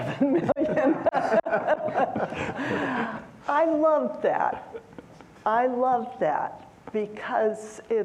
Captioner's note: laughter